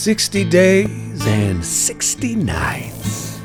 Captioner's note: none